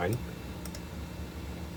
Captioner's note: click